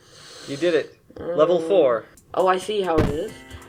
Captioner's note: sighs